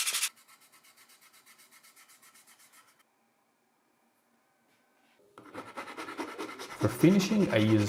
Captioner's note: pause